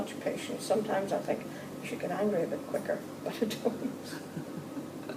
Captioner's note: small laugh